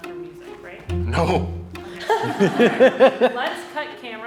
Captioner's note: onlookers laughing